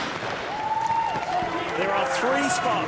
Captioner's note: gun firing; crowd cheering